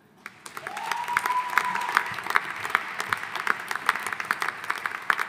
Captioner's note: audience applauding